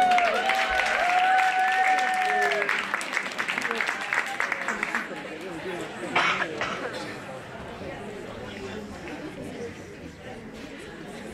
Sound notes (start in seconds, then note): 0.0 applause